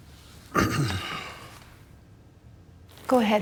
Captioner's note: clearing throat